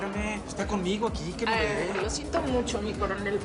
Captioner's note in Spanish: none